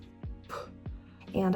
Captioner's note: phew